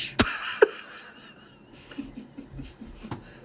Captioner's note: laughs